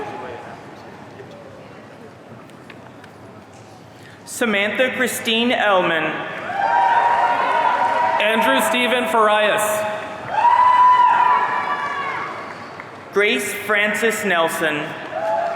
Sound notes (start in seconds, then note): 6.4 audience cheering; 15.0 audience cheering